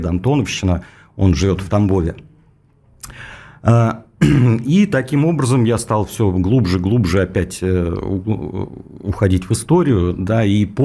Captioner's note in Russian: откашливается